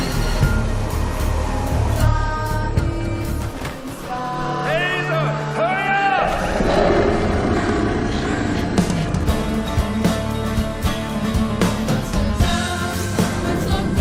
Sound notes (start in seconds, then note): 5.4 deafening roar